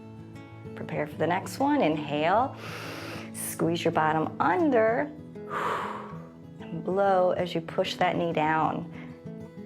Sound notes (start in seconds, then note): 2.6 inhales; 5.4 exhales